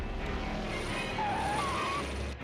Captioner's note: tires screeching